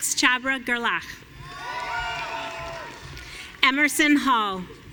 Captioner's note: audience cheering